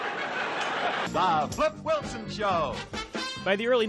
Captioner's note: laughter